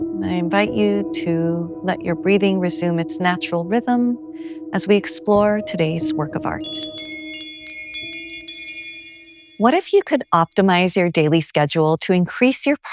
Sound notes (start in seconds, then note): 7.3 bells chime